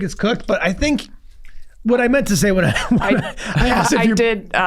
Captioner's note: laughs